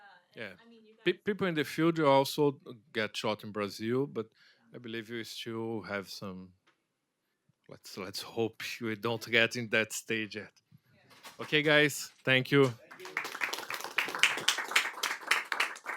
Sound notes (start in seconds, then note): 12.5 applause